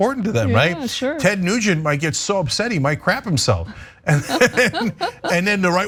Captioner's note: laugh